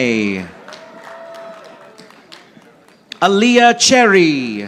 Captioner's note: audience applauding